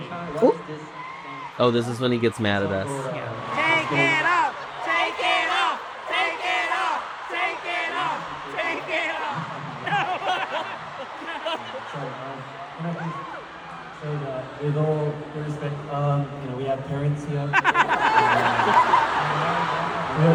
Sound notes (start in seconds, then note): 9.8 laughs; 17.5 laughs